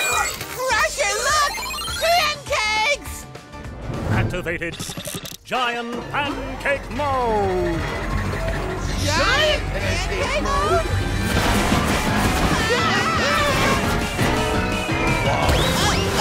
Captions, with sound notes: Crusher, look, pancakes! Activating giant pancake mode. Giant pancake mode?! [screaming]